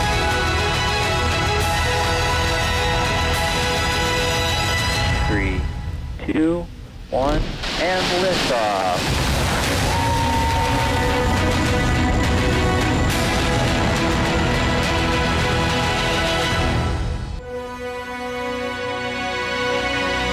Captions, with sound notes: three, two, one. And liftoff. (observers cheer) (rousing music)